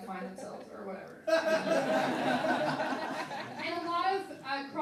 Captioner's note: laughing